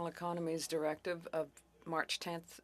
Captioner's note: speaking French